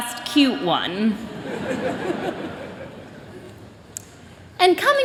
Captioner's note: chuckling